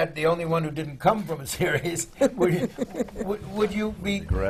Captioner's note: laughs